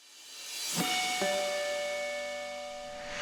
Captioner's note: chime